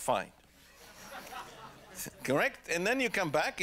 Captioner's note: laughter